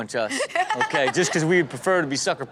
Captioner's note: Chanel laughs